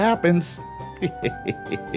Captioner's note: laughing mischievously